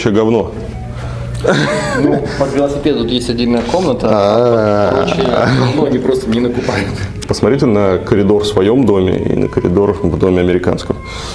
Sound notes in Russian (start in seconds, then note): 1.4 смех